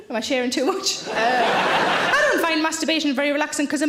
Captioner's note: audience laughs